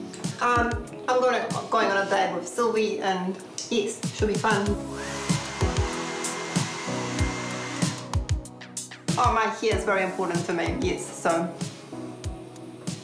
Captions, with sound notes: I'm going to I'm going on a date with Sylvie, and, yes, it should be fun. (HAIR DRYER WHIRRS) Oh, my hair's very important to me, yes, so...